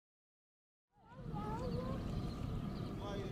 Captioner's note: child's voice